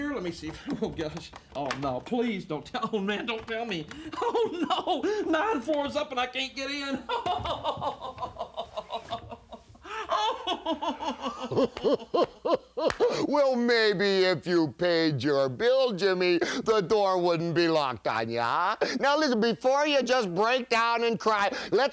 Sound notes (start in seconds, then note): 7.0 sobbing; 11.7 Piper laughs